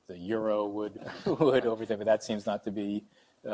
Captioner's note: laughing